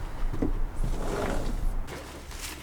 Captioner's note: door opens